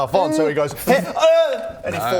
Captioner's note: hrh...ohh